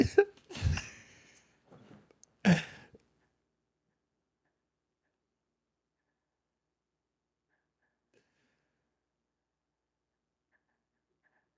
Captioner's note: laughing